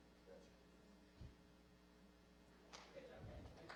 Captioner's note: applause